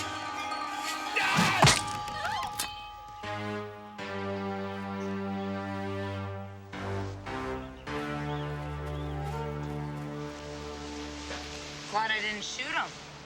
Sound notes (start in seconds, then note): 0.1 ladies screaming; 1.1 man yelling